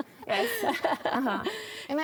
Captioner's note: laughter